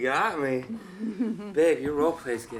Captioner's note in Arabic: جوان تضحك